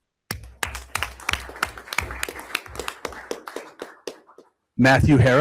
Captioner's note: everyone applauds